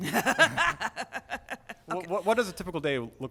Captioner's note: laughter